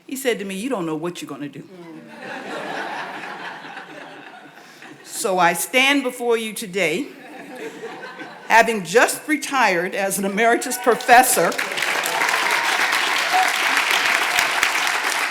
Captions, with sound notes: He said to me, "You don't know what you're gonna do." (audience laughs) So I stand before you today having just retired as an emeritus professor. (audience applauds)